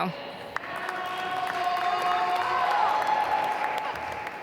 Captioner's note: applause